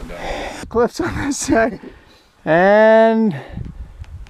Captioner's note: laughing